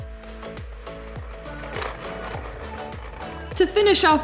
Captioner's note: motor whirring